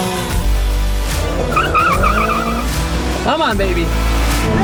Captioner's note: tires screeching